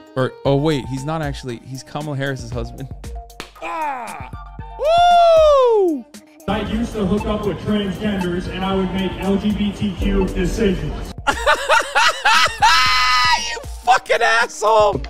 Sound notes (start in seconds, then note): 3.4 sucessful fly clap; 11.2 laughing